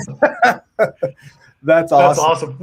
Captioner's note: laughing